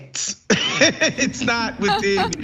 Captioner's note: laugh